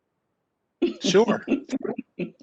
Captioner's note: chuckles